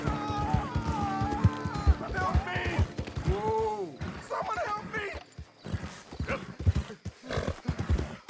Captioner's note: screams in pain